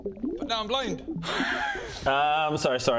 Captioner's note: mischievous laugh